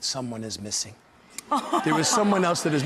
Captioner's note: laughs